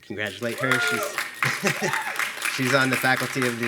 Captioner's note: attendees clapping; chuckling